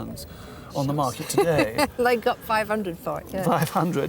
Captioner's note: laughs